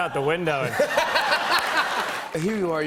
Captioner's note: laughter